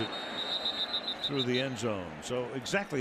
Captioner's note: whistle blows